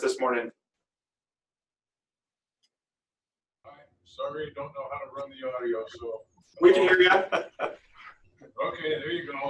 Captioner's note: laughter